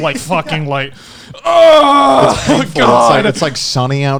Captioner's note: yelling